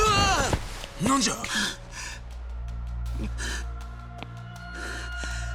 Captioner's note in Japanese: 息をのむ音